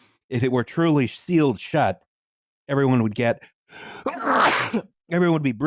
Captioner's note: sneezes